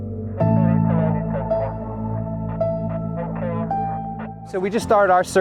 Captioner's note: police radio chatter